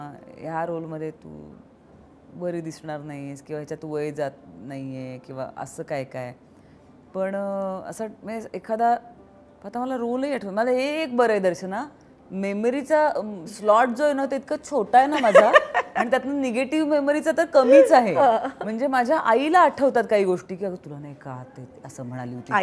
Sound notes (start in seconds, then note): 15.2 Chuckles